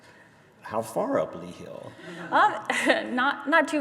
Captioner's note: audience laughter